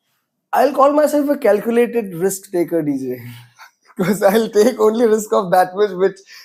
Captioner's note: laughs